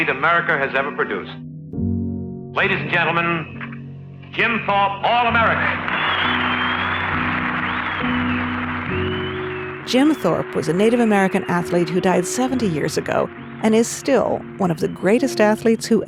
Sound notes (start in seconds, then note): 5.2 audience applauding; 5.4 audience cheering